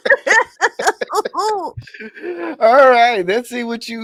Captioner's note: laughing